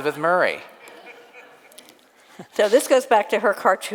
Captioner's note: audience laughs